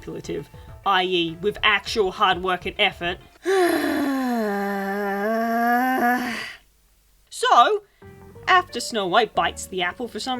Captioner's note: incredibly long sigh